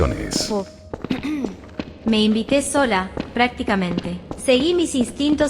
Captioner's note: clears throat